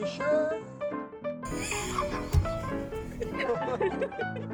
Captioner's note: jaunty music; laughter; juanty music